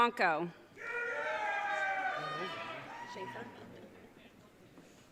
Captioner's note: audience cheering